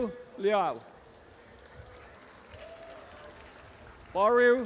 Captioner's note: audience applause